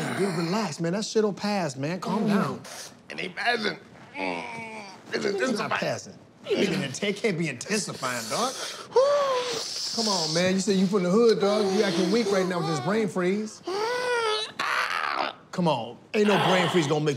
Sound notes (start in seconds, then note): 4.1 groans; 9.2 hisses; 13.6 groans